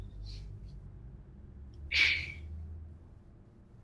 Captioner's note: sighs